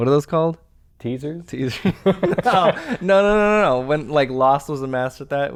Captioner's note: chuckle